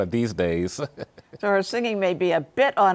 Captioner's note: laughs